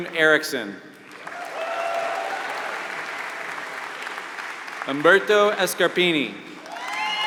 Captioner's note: applause